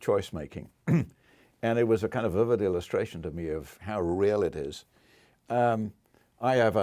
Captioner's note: cough